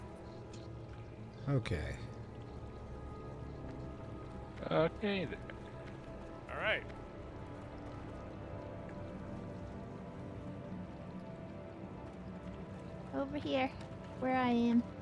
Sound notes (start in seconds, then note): none